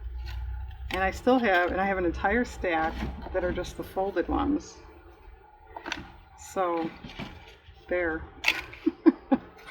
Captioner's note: laughs